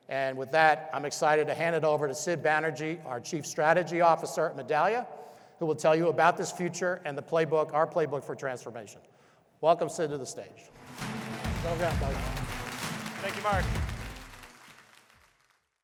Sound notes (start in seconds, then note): 10.7 upbeat music; 10.7 audience applauding